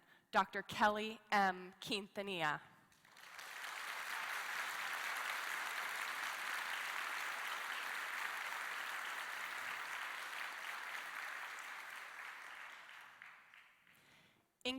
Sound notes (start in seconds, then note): 2.9 applause